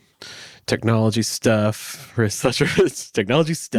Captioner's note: laughs